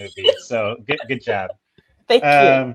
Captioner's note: Isabella laughing